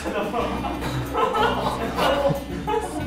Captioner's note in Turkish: Gülmek